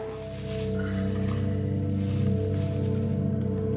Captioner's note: keys jingling; bag rustling